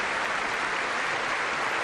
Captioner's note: applause